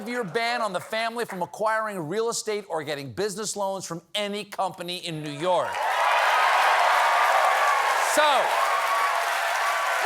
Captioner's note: cheers and applause